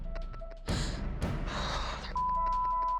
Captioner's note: breathes deeply